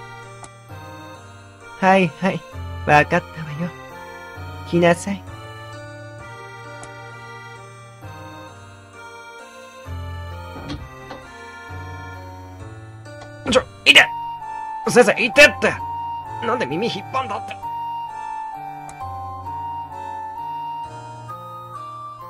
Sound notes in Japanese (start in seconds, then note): 10.2 扉の開く音：ガッチャン